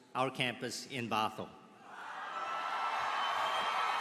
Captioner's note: applause